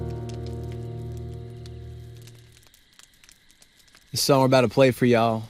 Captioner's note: fire crackling; insects chirping